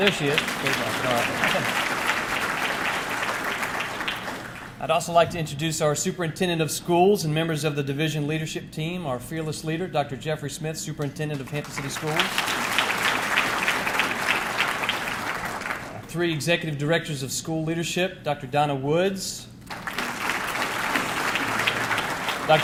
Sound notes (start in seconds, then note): 11.3 audience clapping; 19.6 audience clapping